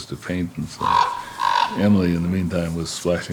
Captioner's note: crow cawing